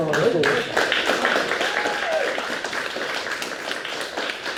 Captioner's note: audience applauds